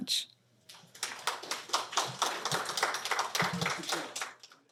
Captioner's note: applause